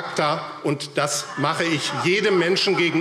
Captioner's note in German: Vereinzeltes Lachen